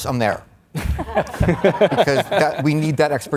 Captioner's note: all laughs